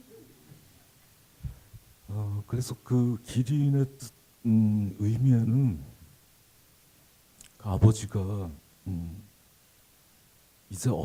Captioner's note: speaking Korean